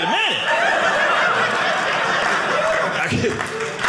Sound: audience laughing

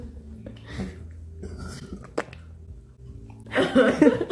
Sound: burps; spitting noise; laugh laugh laugh

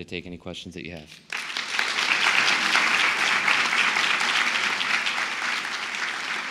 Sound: applause

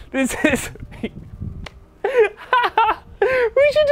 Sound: chuckles

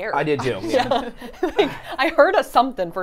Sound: laughs

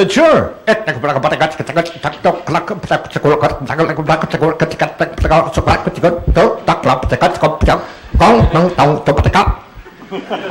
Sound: Doohan imitates fast-paced alien dialect

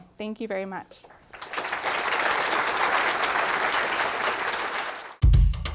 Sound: applause

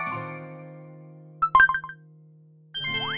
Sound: confirmation sound

